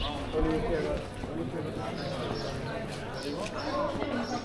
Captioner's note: people chattering